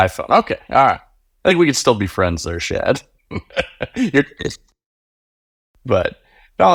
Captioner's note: laughing